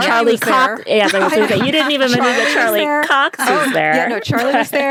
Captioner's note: laughter